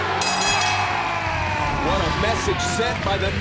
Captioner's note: bell ringing